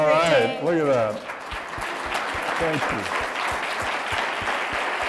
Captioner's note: applause